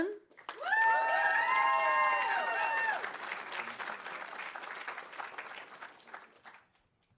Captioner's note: audience applauding; audience cheering